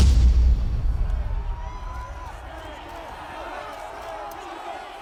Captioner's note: crowd screaming